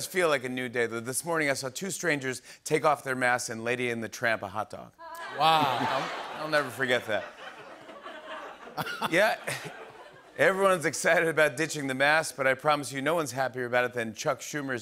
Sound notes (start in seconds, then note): 5.1 laughter